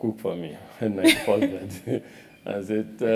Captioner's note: laugh